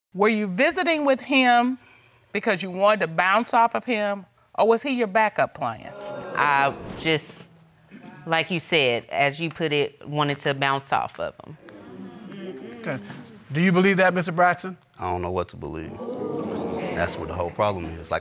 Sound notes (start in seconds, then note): 11.9 audience exclaming